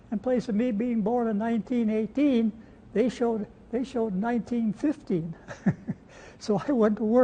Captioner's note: laughs